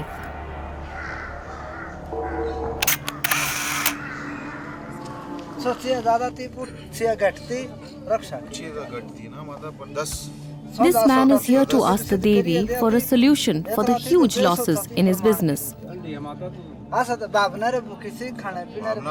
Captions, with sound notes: (dramatic music) (dramatic music) (camera shutters) You’ve all come to seek my protection. Be patient. Mother, please help me. This man is here to ask the Devi for a solution for the huge losses in his business. I am hungry for your devotion not your money.